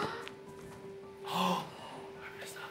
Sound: gasps

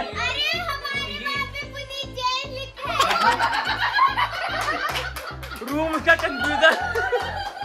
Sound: laughter

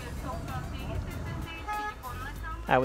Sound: indistinct chatter; car horn honks

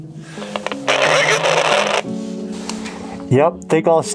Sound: radio static

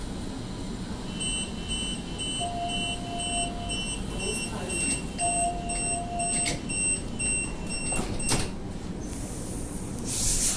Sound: beeps

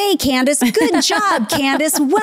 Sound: laughing

